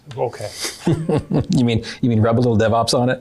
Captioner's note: all laugh